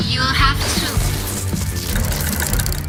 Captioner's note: bzzzt